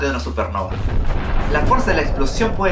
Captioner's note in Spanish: Explosión